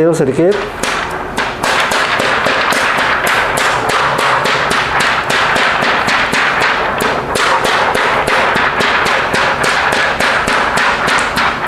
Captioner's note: PET film sound